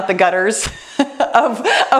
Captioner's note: laughs